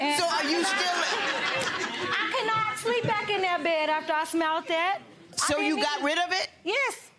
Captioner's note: audience laughing